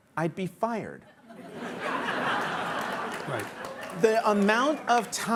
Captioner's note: audience laughing